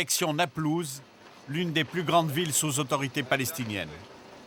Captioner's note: French spoken audio